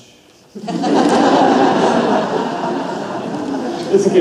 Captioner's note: audience laughs